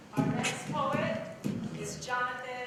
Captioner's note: beatboxing